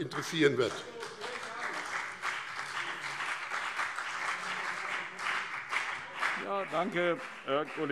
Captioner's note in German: Beifall BÜNDNIS 90/DIE GRÜNEN und CDU